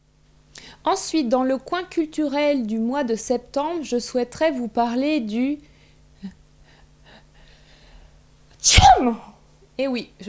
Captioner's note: achoo